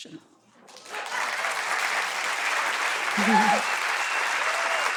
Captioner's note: audience applauds